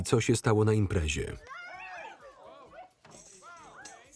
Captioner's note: yelling